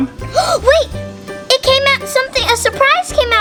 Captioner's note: gasps